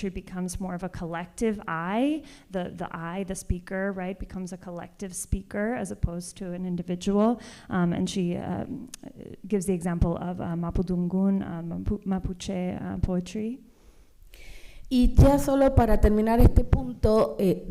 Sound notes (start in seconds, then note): 14.6 speaking spanish